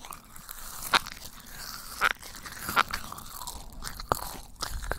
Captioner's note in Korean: 종이 꾸겨지는 소리가 자꾸 나요